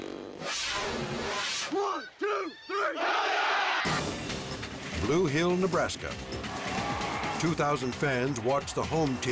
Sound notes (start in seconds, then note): 2.3 team cheers